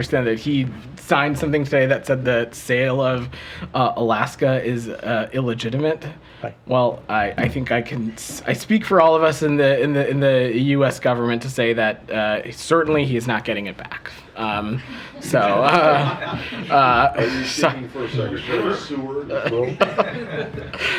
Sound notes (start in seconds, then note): 15.0 laughter; 19.2 laughter